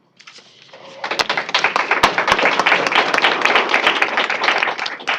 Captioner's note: applause